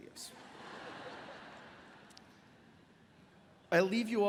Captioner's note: audience laughs